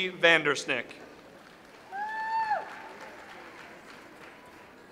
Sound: audience applauds

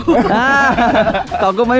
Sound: laughs

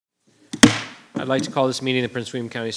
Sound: gavel banging

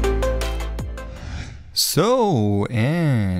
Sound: screen whooshing

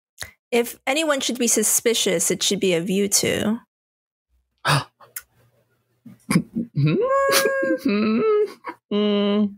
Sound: Driftwood gasps

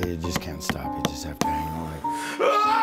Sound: hammer pounding; scream

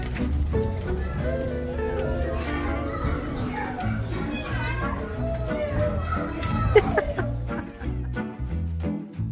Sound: sounds of children playing

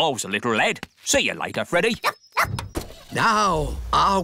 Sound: barks; car engine starts

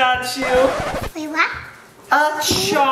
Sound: record scratch

